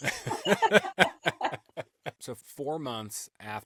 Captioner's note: laughter